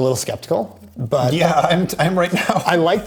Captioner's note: chuckles